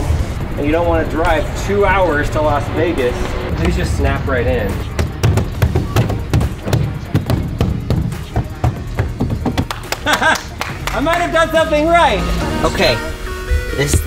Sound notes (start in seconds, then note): 5.3 banging; 9.5 clapping; 9.6 laughs